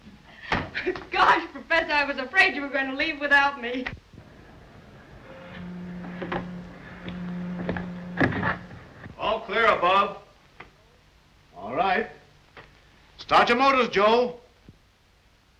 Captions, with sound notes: Gosh, Professor, I was afraid you were going to leave without me. - [Crash] All clear above. - All right. Start your motors, Joe.